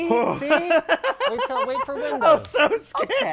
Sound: laughter

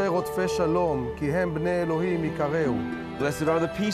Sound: speaking hebrew

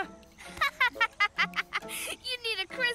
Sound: laughs

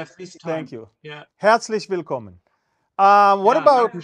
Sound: German Conversation

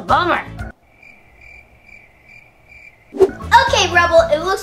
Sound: crickets chirping

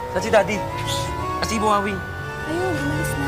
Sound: shushes

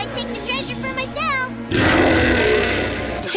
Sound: roaring

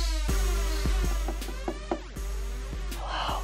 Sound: tapping

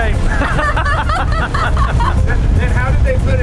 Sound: both laughing

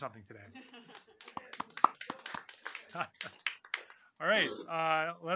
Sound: applause

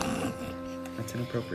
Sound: snickers

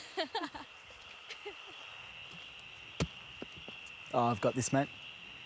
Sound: crickets chirping

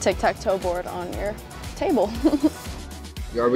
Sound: giggles

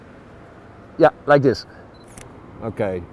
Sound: shutter clicks

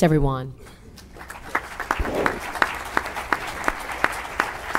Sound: applause

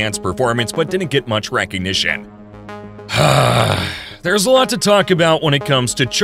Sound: sigh

